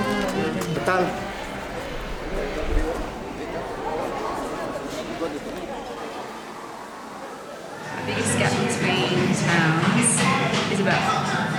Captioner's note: applause